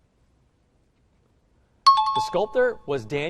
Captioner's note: time chime